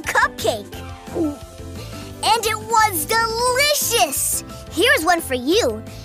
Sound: gulps

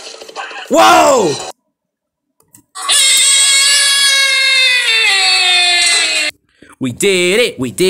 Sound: screaming

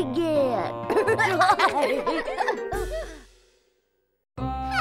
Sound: babies laughing

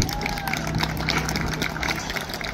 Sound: applause

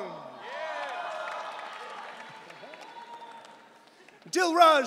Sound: audience cheering

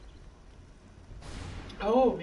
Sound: gunshot

